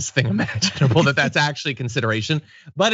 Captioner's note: laugh